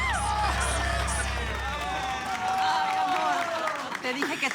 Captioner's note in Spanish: Exclamaciones; Aplausos